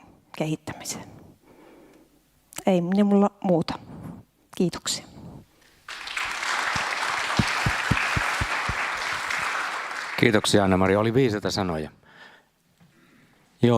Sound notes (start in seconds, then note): 5.8 Aplodit